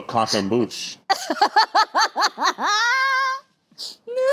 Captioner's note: laughs